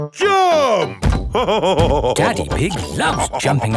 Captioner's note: laughing